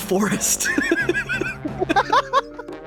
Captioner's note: laughing